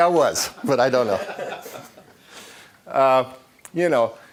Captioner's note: laughing